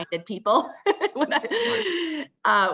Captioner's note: laughs